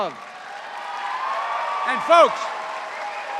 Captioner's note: cheers and applause